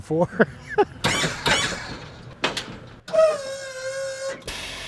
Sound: laughing

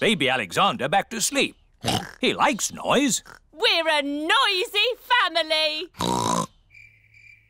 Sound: oinks

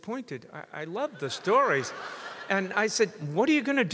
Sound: audience laughs

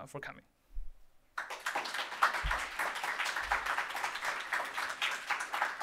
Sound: applause

